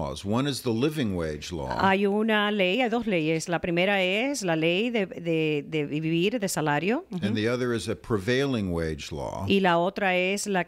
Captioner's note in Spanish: Hablando ingl\s